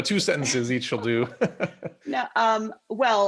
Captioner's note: laughter